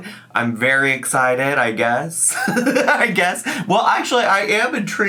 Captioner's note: laughs